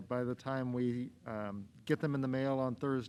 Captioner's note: none